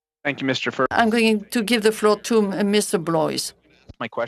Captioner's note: speaking in French